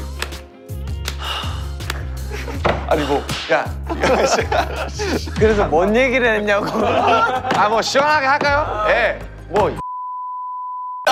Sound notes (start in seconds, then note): 0.1 slap